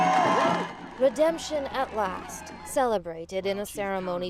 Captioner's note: applause